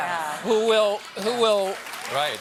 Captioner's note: applause